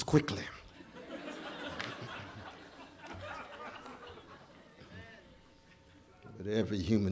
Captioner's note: laughter